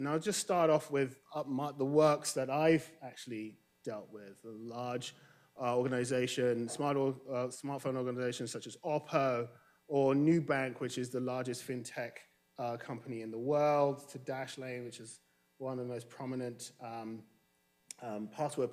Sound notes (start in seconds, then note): none